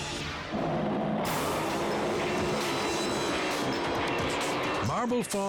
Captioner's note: engines roaring; engaging music